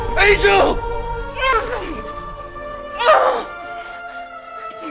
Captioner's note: grunting